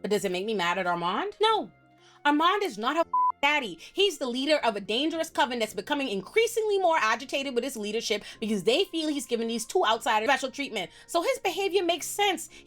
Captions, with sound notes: But does it make me mad at Armand? No, Armand is not her (beep) daddy. He's the leader of a dangerous coven that's becoming increasingly more agitated with his leadership because they feel he's giving these two outside special treatment. So his behavior makes sense.